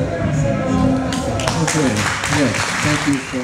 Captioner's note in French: applaudissements, ovations